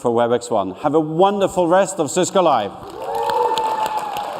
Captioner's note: cheers and applause